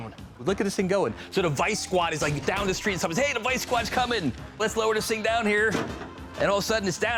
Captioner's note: none